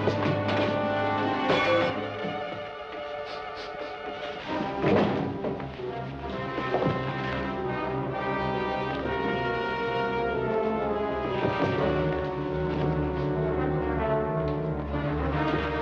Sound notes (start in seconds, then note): 3.1 sniffing